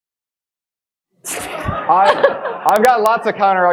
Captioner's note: audience laughing